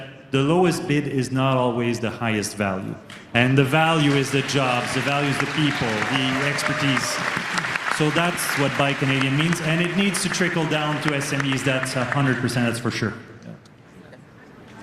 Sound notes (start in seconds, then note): 10.4 cheering and Applause